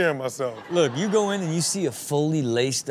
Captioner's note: crowd laughs